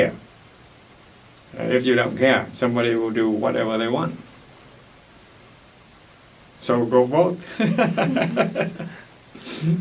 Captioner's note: laughs